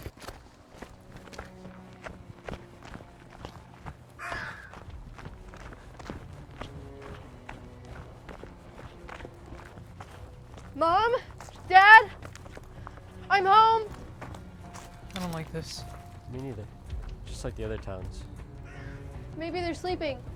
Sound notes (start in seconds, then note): 4.1 crow cawing; 6.6 intense orchestral music